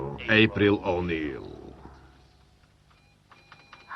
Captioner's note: typing